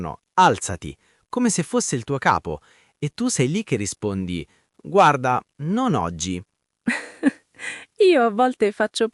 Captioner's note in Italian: risate